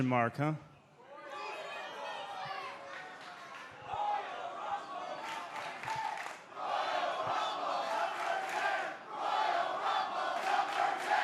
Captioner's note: crowd cheering